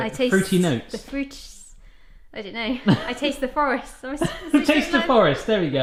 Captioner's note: laughs